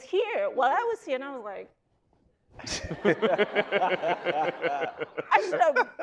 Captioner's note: all laughing